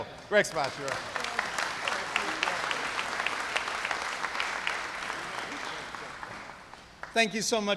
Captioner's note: applause